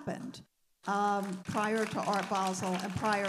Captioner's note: audience applauding